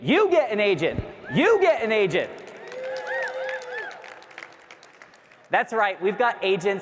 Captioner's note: audience cheering